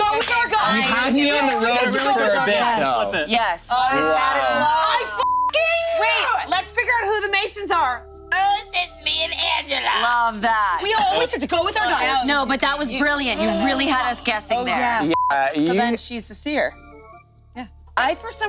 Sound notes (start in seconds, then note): 5.2 beep; 15.1 beep